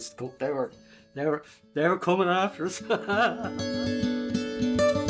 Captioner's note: laughs